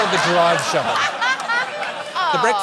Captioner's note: laughs